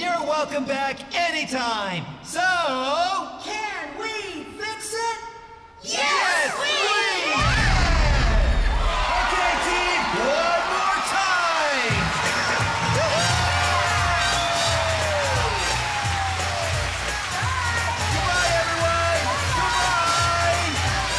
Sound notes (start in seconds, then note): 12.4 cheers & Applause